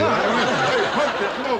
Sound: laughing

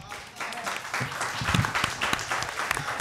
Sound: applause

